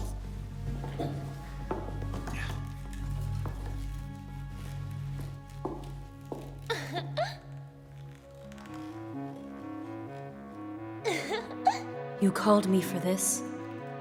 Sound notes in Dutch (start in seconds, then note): 0.1 zachte dramatische muziek; 7.5 giechelt; 11.1 Elisabeth hijgt; 11.1 lacht